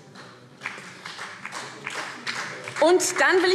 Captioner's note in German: Beifall SPD